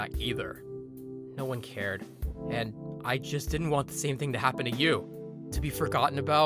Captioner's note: narrating